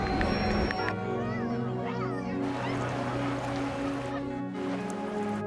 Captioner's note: keyboard keys clacking; travelers chattering; children chattering